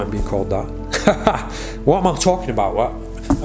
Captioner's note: laughing